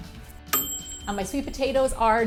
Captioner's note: ding!